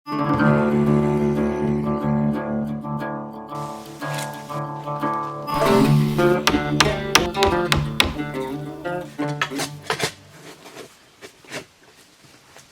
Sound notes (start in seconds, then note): 0.2 guitar playing; 9.6 digging